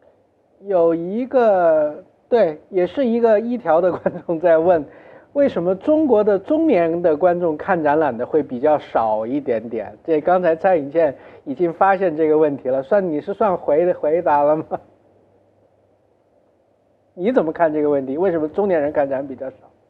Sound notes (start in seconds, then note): 14.5 laughs